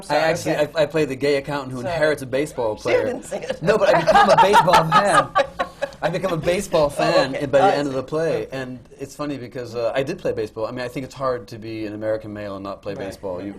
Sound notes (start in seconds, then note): 3.5 laughter